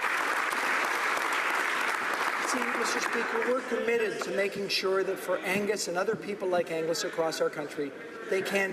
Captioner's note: applause